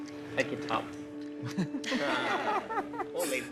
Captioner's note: laughter